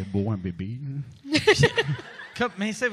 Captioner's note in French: Rires